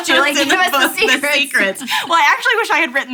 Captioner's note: laughing